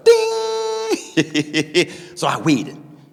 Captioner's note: laughing